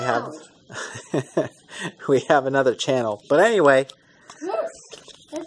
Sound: chuckles

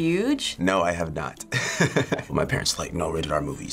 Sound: chuckles

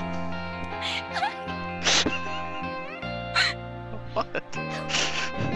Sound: laughing; more laughing

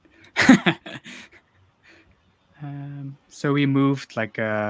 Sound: laughs

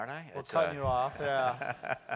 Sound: laugh

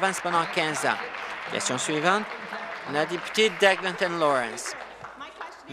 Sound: applause

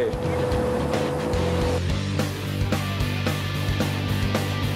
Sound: machine whirring

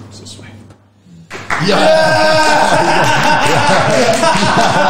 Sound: cheers

